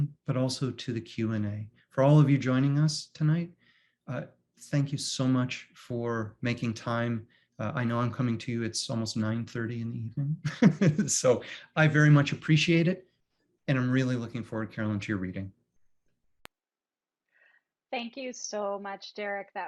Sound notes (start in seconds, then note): 10.4 giggles